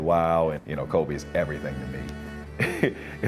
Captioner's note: chuckles